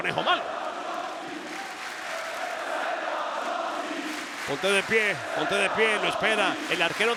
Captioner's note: applause